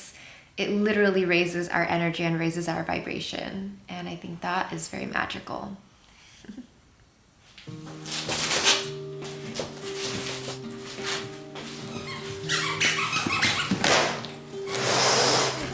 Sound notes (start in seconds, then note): 7.6 mellow music; 11.8 squeaky toy